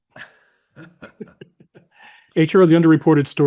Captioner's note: chuckling